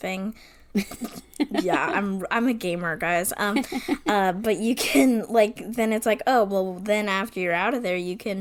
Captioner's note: sputters